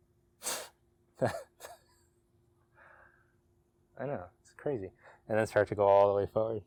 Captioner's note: laughs